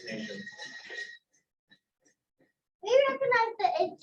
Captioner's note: bell jingling